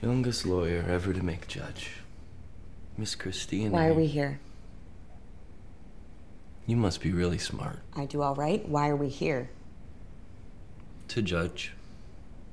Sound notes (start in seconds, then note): none